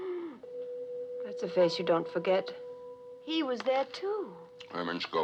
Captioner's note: gasps